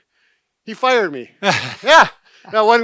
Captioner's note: laughs